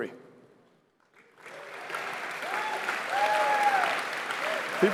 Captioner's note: applause